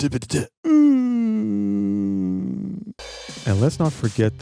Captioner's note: groan